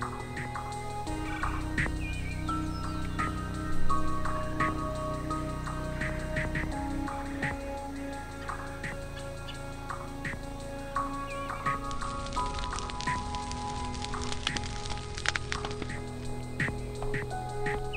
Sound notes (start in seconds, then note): 0.4 red-bellied woodpecker and Eastern bluebird calling; 11.9 fire crackling; 16.5 eastern bluebird calling